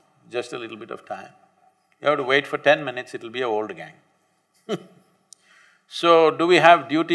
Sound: laughs

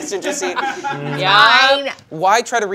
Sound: crewmember laughs

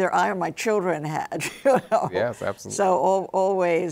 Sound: chuckles

